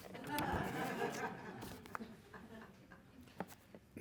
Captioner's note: laughing